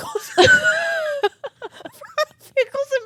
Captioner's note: both laughing